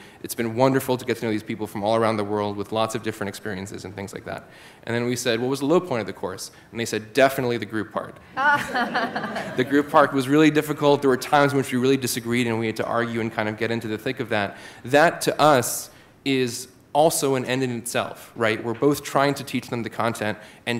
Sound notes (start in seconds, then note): 8.4 laughter